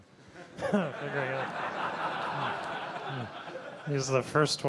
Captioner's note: laughter